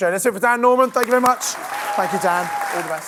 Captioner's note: audience clapping and cheering